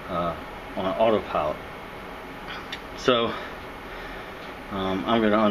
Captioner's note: computer fan noise